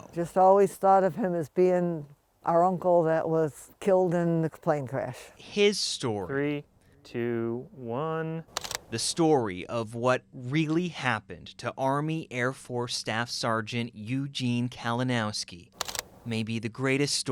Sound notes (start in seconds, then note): 8.5 camera clicks